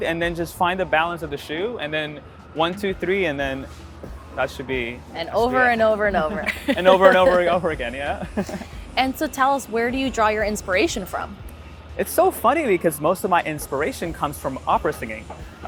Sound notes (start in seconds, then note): 6.2 laughs; 8.0 laughter